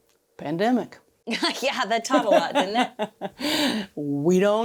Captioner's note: laughs